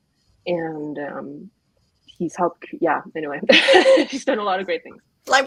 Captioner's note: laughs